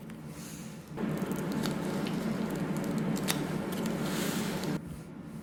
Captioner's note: slurp slurp